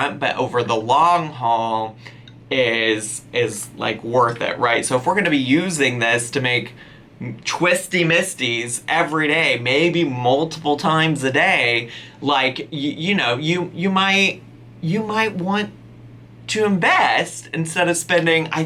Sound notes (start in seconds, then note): none